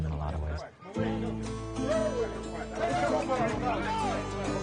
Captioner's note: people chattering